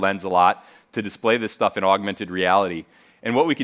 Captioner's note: none